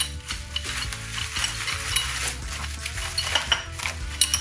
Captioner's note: metal clanging